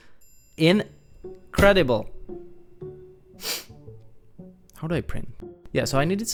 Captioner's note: sniffs